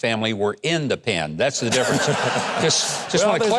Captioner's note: audience laughing; Doug laughing